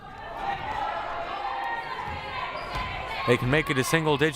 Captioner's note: crowd cheering